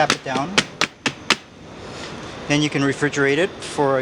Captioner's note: taps pan